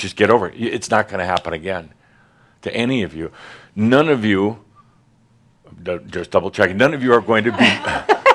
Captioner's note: some laughter